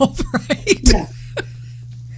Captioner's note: laughing